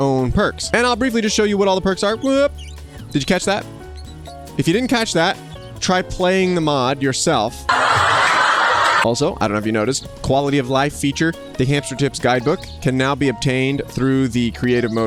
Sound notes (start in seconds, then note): 7.7 laughing